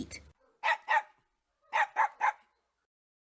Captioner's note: dog barks happily